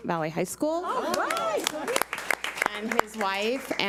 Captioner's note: audience applauds